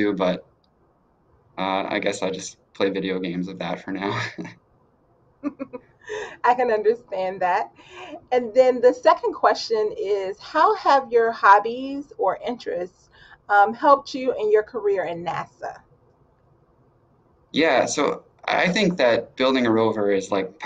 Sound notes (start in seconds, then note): 3.6 both laughing